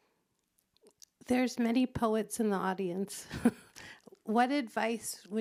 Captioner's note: chuckles